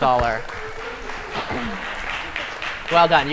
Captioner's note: applause